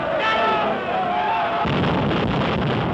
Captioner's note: shouting; booming